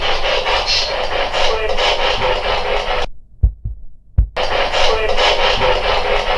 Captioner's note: static